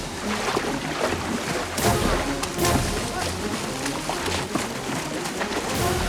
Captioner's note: shouting